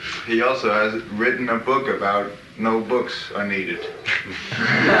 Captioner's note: laughter